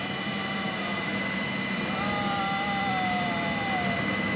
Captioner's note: patient groaning